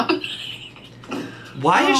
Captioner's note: laughs